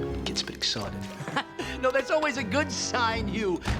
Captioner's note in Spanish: risas